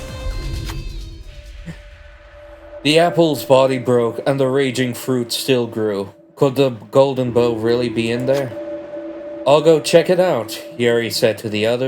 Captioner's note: sigh